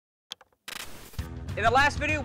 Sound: static; upbeat music

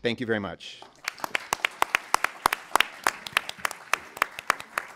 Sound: applause

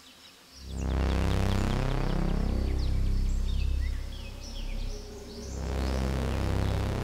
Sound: birds chirping; ominous music

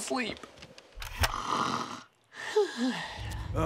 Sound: snoring

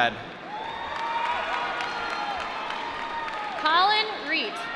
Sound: applause

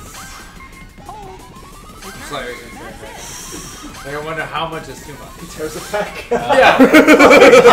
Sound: laugh

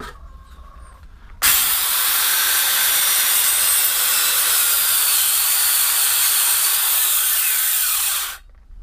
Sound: loud sawing noises

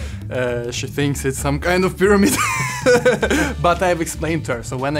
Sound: laughs

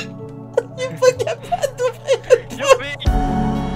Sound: talking while laughing

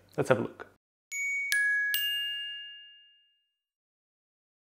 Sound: bell ringing

